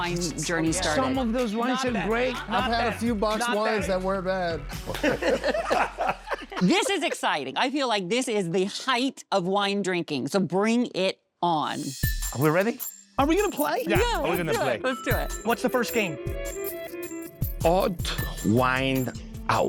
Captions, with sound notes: - Under the kitchen sink. - Some of those wines are great. - Not bad, not bad. - I've had a few boxed wines that weren't bad. [laughing] - This is exciting. I feel like this is the height of wine drinking, so bring it on. - Are we ready? - Are we gonna play? - Yeah, let's do it. - Yeah, are we gonna play? - Let's do it. - What's the first game? - Odd Wine Out.